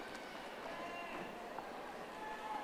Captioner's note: audience applauding